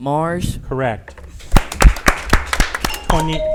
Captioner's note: audience applauds; bell chimes